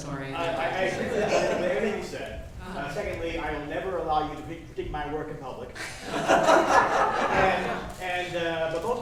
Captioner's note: laughter